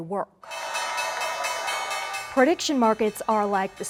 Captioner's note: bell ringing